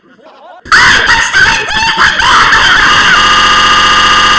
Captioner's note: high-pitched, earrape; stuttering in earrape